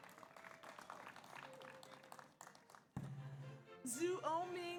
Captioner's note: audience applauds